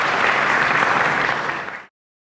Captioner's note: applause